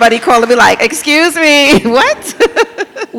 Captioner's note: lauhgs